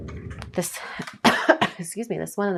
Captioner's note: coughs